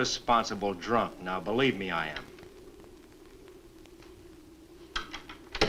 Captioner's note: door closes; door opens